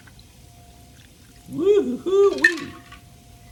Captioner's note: liquid splashing